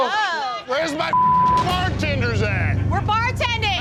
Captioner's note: beep